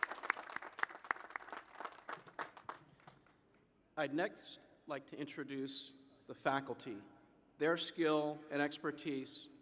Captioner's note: applause